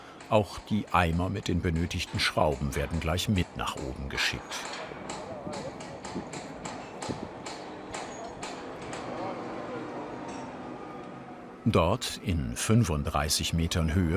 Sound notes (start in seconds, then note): 4.4 hammering on steel